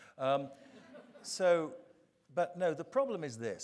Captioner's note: audience chuckling